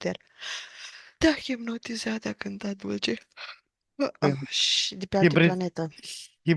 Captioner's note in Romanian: voce dreasă